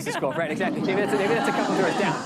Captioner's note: laughter